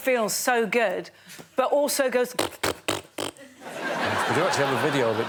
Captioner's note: makes fart noises